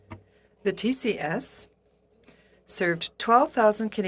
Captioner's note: speaking FRENCH